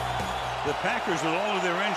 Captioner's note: crowd cheers